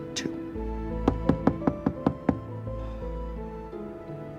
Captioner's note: soft knocking